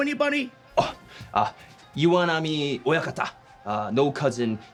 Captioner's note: speaking in foreign language